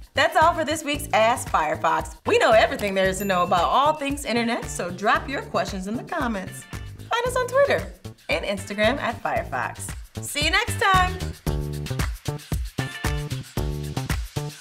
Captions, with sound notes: That's all for this week's Ask Firefox. We know everything there is to know about all things Internet (bell chimes) so drop your questions in the comments. Find us on Twitter and Instagram @Firefox. See you next time. (upbeat music)